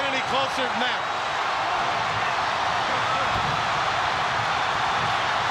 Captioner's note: audience cheering